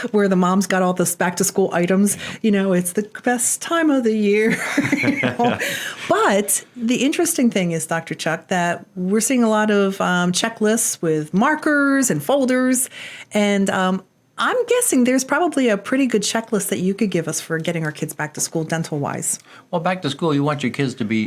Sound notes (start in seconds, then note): 4.4 laughs